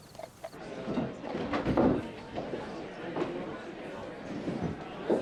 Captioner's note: indistinct conversation